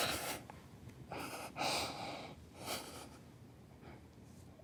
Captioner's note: crying